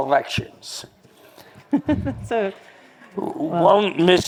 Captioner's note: laughing